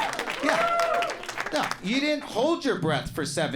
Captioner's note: audience cheering and clapping